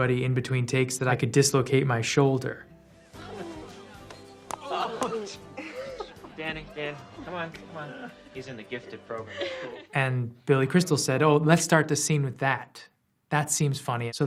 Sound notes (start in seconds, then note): 3.2 groaning